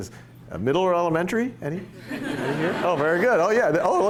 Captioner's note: laughter